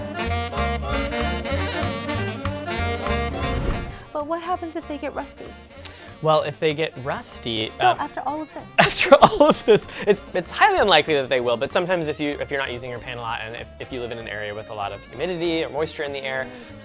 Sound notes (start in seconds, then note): 0.3 playful music; 8.7 laughs